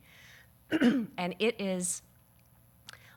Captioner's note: clearing throat